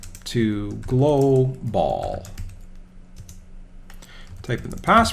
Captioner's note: typing on keyboard